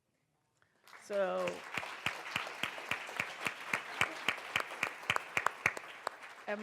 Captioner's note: applause